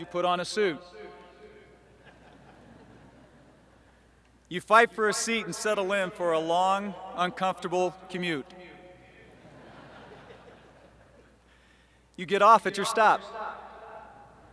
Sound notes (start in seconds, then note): 1.9 laughter; 9.3 laughter